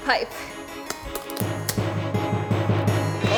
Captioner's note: glove snaps; dramatic music